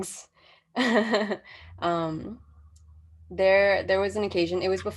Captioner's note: chuckles softly